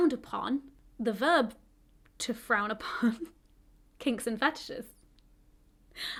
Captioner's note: chuckles